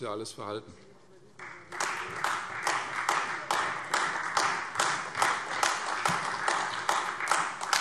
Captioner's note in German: Beifall Freie Demokraten, vereinzelt CDU und AfD